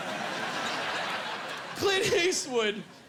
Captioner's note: laughing